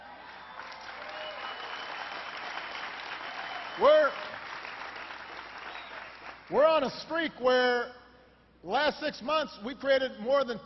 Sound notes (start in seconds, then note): 5.6 applause